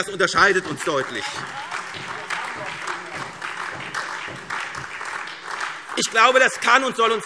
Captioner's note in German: Beifall SPD und DIE LINKE